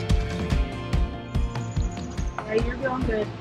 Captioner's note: birds singing